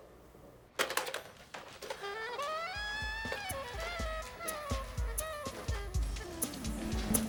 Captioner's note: receiver slams